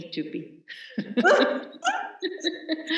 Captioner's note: laughter